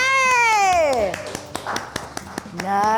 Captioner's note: applause